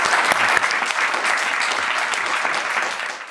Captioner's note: audience applauding